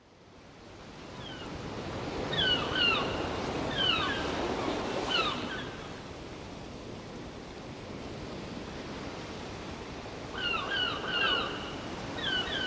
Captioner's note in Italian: garriti dei gabbiani